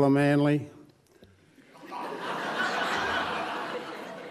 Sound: laughs

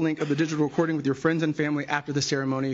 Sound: none

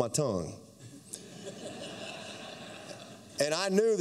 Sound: laughter

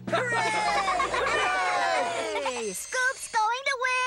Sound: cheering and laughing

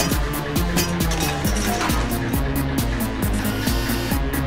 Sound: metal clanging

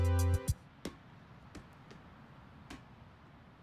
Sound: ball bouncing

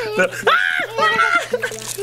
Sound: squeals; laughs

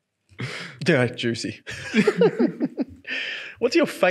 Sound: laughs

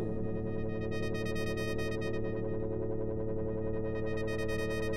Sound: electronic humming

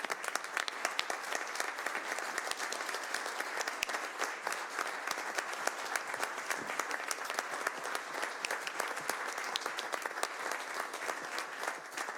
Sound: applause

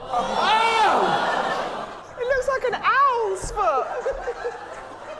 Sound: laughter

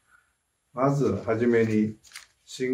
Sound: speaking japanese

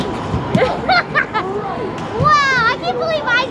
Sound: laughing

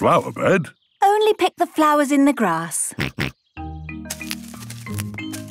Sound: snorting

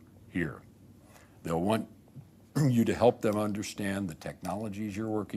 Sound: clears throat

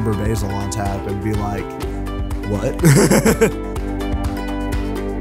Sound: laughs

